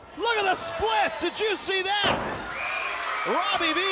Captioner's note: audience cheers